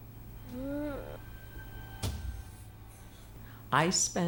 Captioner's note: tense music; Raven moans